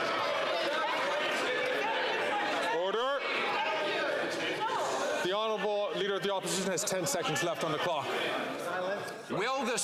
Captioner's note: some Applause